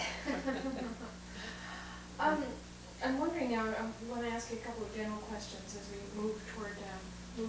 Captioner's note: laughs